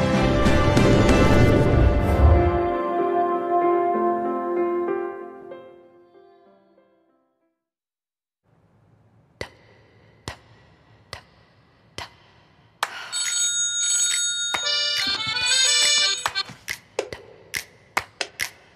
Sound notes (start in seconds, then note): 13.1 alarm